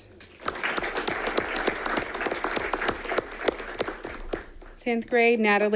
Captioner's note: audience applauding